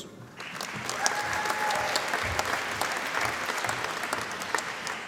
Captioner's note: applause